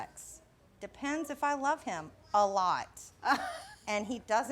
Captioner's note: laughs